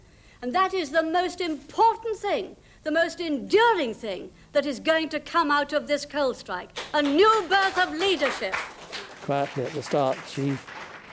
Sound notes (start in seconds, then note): 6.7 audience clapping